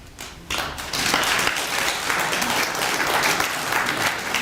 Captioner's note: applause